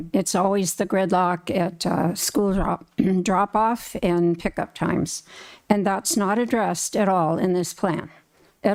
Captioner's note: clears throat